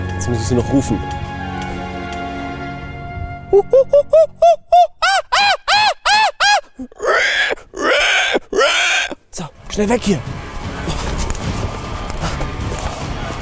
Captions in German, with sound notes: Jetzt muss ich sie noch rufen. (Er macht verschiedene Tierlaute.) So, schnell weg hier. (Spannungsvolle Musik)